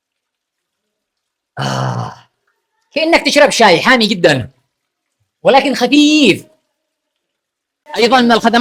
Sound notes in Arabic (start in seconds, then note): 1.6 تأوُّه; 3.0 تنحنُح